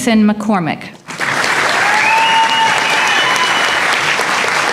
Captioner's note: applause